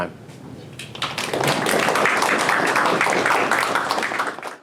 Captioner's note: audience applause